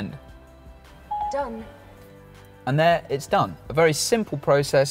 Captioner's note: ding-ding